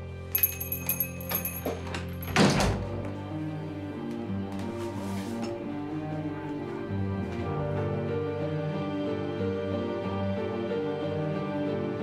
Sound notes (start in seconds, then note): 0.3 bell chimes; 1.6 door closes